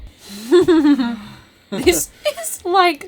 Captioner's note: chuckles